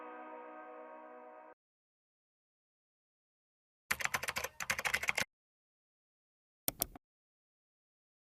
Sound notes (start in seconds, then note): 0.0 upbeat music; 3.9 keyboard keys tapping